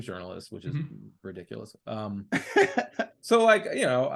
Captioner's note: laughing